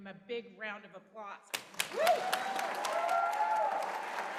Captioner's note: applause